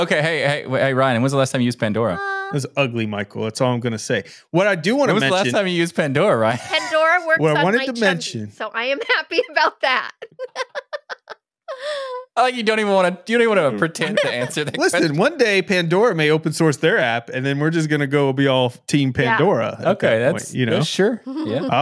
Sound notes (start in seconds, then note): 10.9 laughing